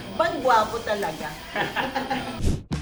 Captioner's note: laughs